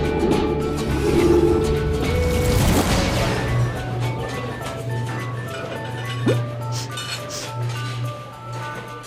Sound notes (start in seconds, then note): 6.7 sniffing